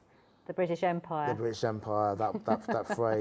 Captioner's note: laughs